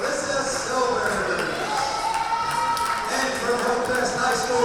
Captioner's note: crowd cheering